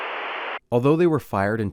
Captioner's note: static